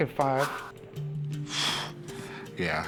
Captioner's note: sighs